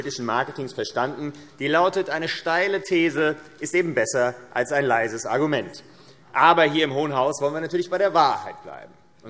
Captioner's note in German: none